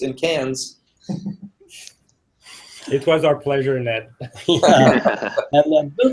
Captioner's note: laugh